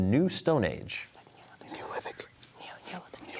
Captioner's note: whispering